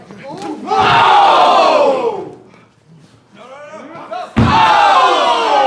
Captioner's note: audience cheering